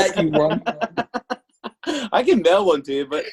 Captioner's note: laughs